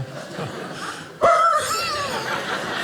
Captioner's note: dog wincing; audience laughing